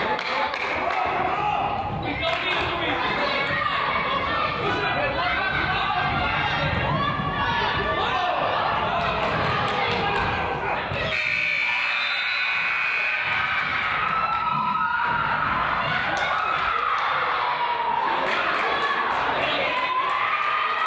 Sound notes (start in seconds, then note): 11.0 whistle blows; 11.1 buzzer honks; 12.9 team yells; 17.3 teams scream and yell